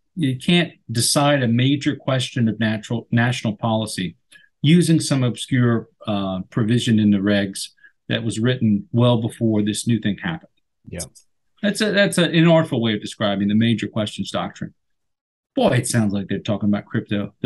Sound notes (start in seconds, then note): none